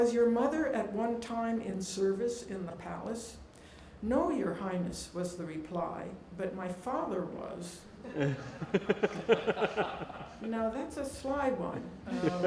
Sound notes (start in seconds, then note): 8.1 laughing